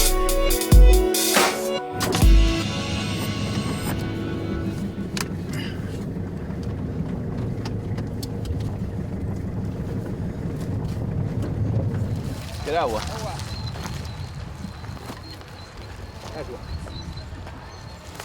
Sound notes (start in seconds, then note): 4.9 truck rumbling